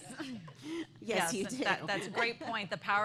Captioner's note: laughter